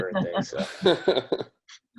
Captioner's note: laughing